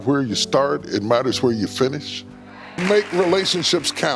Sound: audience clapping

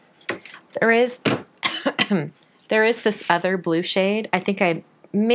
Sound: coughs

